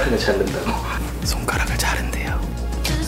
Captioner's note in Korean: 덜덜